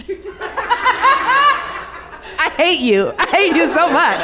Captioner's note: audience laughs